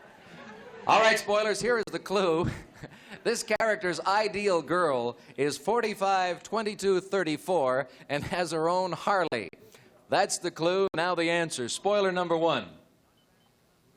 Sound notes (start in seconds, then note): 4.3 chuckles